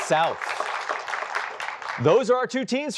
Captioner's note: applause